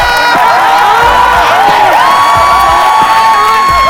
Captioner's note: yelling